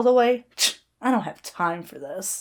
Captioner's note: Hana scoffs